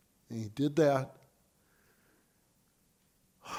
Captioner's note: sighs